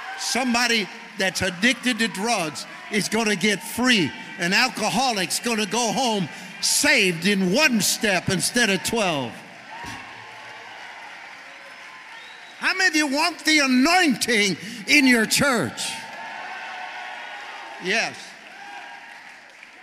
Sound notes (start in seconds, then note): 9.9 congregation cheering; 16.0 congregation shouting